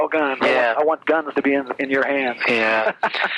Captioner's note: laughs